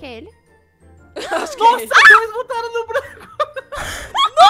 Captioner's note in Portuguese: grita